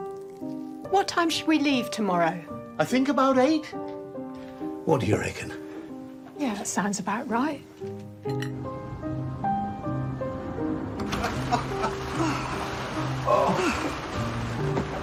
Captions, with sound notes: - What time should we leave tomorrow? - I think about eight. What do you reckon? - Yeah, that sounds about right. (gentle music) (man laughing) (wind blowing) - Oh.